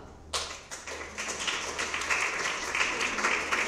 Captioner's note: applause